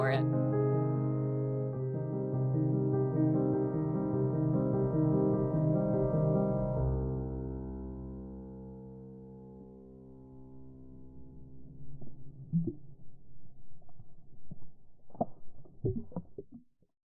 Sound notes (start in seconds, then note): 0.0 inspirational music; 6.9 music concludes; 11.3 water gurgling gently